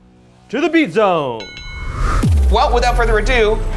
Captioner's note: bell dings